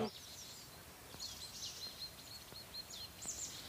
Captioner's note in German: Vogelzwitschern